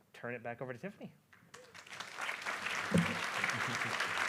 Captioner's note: applause